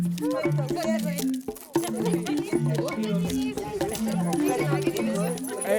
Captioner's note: indistinct chatter